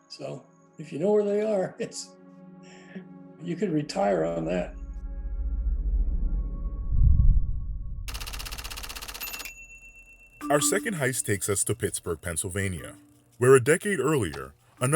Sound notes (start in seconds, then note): 4.0 tense music; 8.1 typewriter clacking